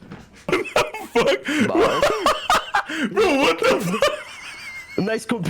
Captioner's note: laughing; wheezing